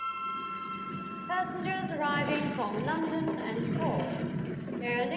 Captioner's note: loudspeaker